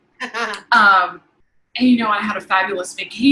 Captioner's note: giggling